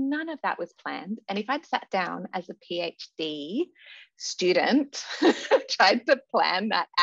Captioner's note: laughs